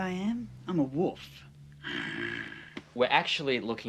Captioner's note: growls